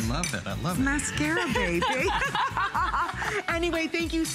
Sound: laughter

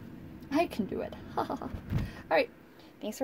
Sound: fake laugh

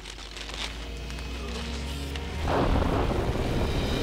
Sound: sounds of rock cracking

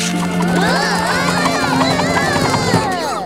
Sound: groaning

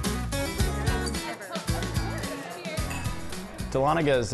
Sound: collective chatter

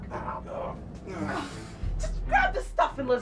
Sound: groans

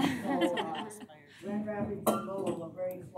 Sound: laughter

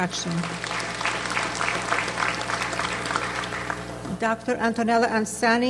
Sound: audience applauds

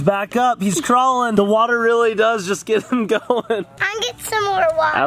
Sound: laughing

